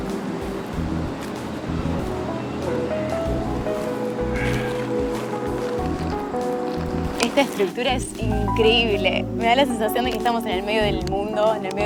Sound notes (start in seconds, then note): 3.7 exhaling; 4.2 soft Music Playing; 5.3 paper Crackling; 5.3 soft Music Playing; 8.5 soft Music Playing